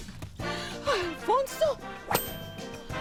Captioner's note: gasping